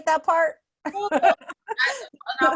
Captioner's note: laughs